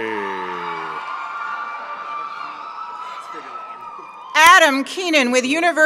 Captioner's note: members of the audience cheer